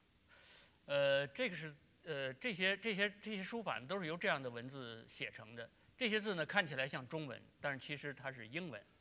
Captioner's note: speaking in Chinese